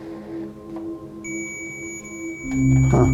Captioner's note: electronic beeping; dark ominous music